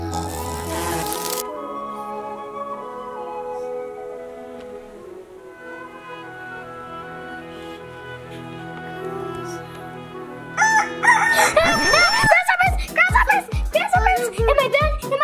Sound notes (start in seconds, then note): 0.0 snoring sounds; 0.3 whimsical music continues; 10.5 rooster crows